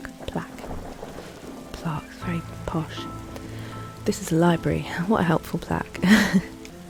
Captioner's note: laughs